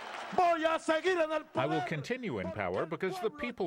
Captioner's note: through translator